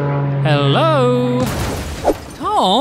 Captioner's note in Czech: výbuch